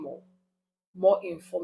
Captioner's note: paause